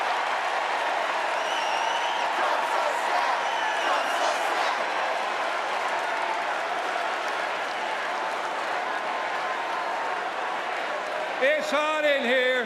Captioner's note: applause